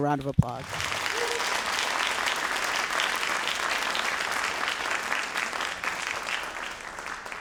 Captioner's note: all applauding